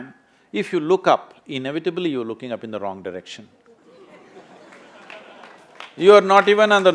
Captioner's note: laughter/Applause